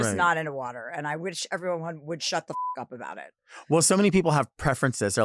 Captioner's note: beep